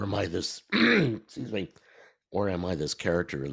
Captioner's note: clears throat